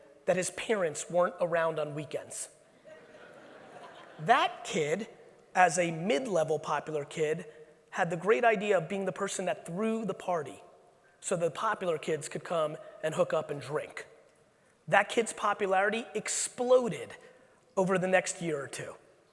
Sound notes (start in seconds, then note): 2.9 audience laughing